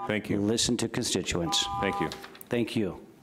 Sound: beep

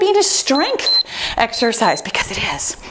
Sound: timer beeps

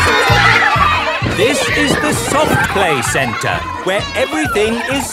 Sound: loudly over shouting

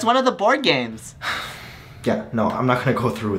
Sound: sigh

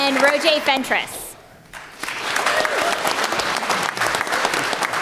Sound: applause

